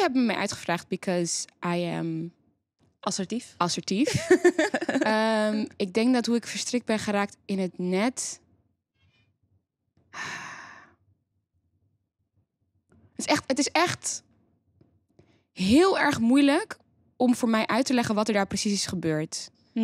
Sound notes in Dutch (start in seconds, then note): 2.3 in koor; 10.1 diepe zucht